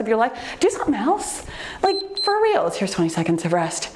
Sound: timer beeps

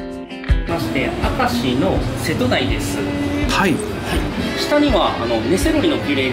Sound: Belted beard grunt

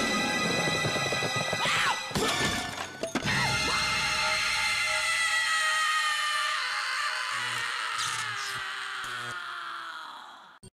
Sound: screams

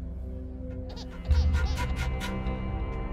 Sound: baby crying

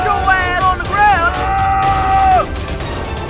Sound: shrieking

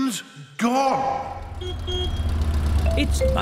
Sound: horn honks

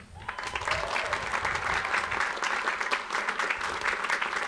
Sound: audience applauds

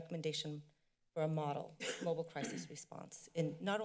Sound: coughing

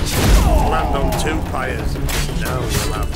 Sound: thunderous boom

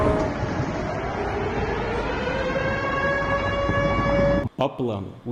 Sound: sirens sound

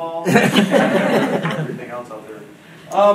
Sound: audience laughing

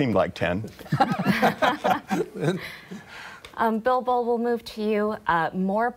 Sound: laughter

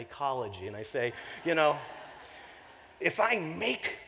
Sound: laughter

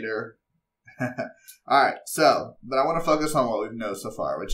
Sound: laugh

